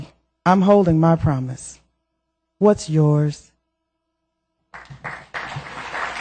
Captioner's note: applause